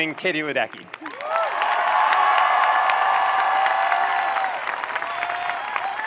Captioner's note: audience cheering and applauding